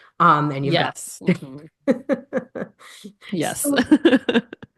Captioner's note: laughing